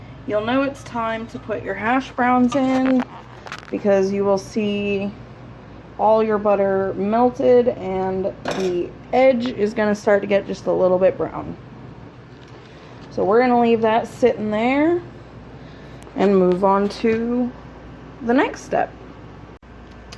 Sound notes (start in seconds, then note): none